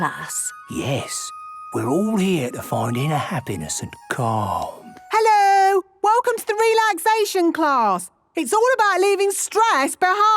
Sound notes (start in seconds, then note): none